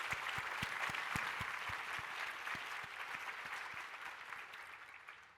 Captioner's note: applause